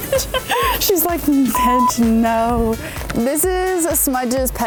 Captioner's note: laughing; beeps